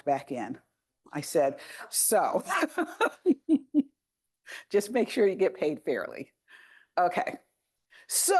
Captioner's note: laughs